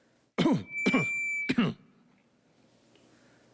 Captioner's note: clears throat